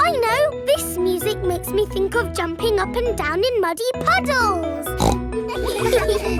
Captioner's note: snorts; giggles